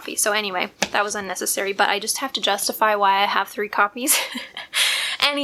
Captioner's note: laugh